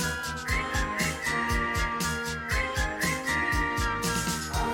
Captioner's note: whistling